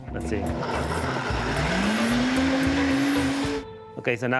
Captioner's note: blender whirring